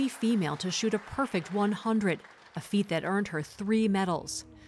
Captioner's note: applause